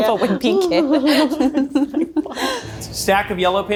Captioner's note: both laughing